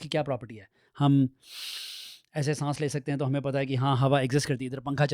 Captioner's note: sniffs